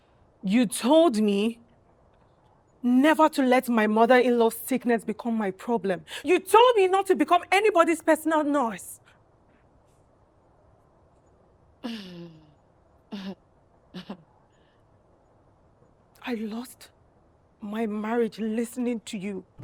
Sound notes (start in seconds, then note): 12.0 chuckles